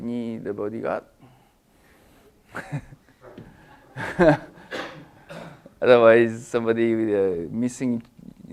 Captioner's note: laugh